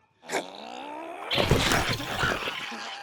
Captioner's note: groaning